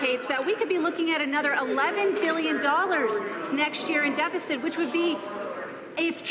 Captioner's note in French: voix de l'interprte